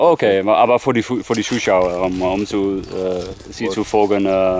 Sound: speaking German

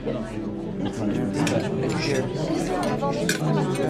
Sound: chattering

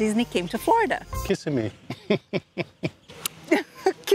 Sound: laughs

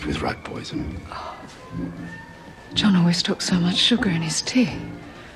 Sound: gasps

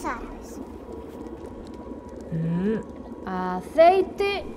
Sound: crackling fire

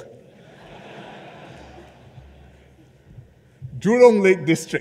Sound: laughter

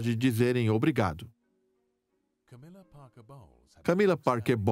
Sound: voiceover

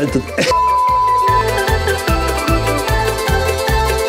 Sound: screen beeping; lively music

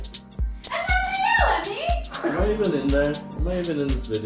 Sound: murmurs

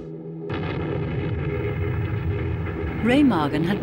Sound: explosion booming

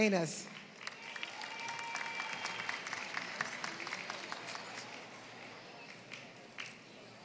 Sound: applause

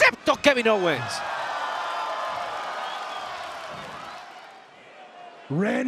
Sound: applause

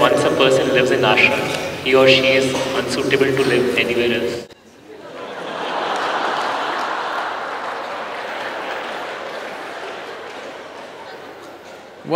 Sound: laughter

